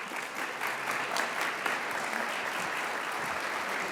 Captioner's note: audience applauds